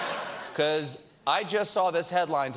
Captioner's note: laughter